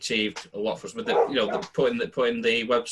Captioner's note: dog barks